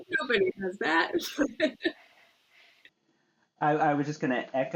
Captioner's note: all chuckles